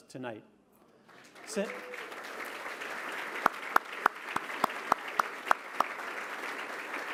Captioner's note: applause